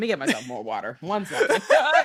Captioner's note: laughing